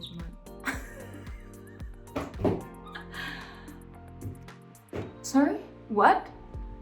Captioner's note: laughing